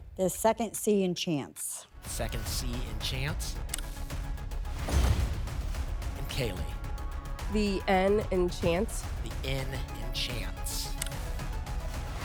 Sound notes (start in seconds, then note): 4.6 whoosh; 4.8 thump